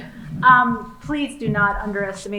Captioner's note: laughing